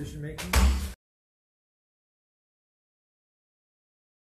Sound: gavel thudding

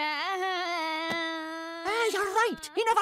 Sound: moaning incoherently

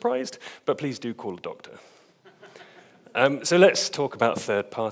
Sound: audience laughs

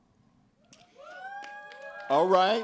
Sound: cheering

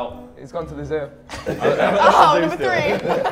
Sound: everyone laughs

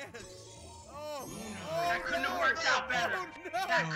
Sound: laugh

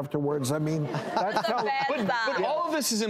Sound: laughing

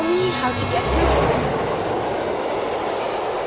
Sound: train running

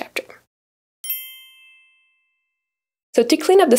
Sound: bell chimes

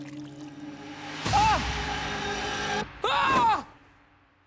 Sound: screaming

